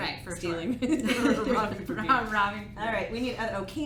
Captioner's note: laughs